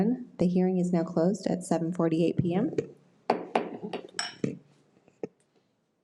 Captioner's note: gavel bangs